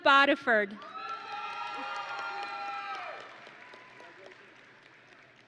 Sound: audience and graduates cheering

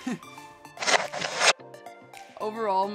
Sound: laughs; text whooshing

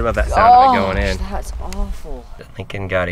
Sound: groaning

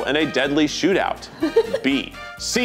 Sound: laughs

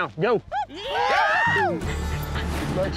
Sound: shouts

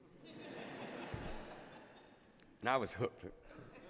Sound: laughter

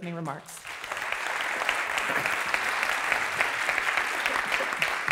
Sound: applause

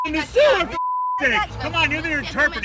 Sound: beep

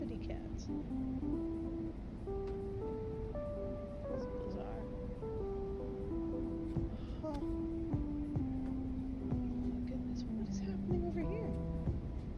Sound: gasp

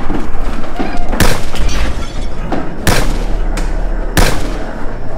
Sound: gun firing

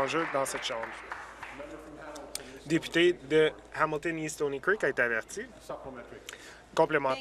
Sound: applause

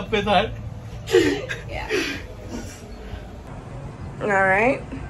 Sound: laughing

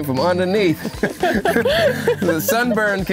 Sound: both laughing

